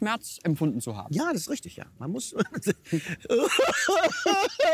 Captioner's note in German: weint